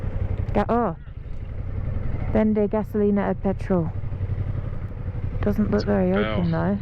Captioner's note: in spanish